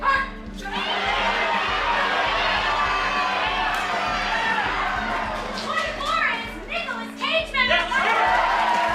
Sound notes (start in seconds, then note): 0.6 cheering; 7.2 excited shouting